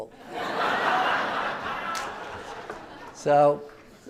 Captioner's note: audience laughing